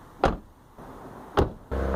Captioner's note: door Slam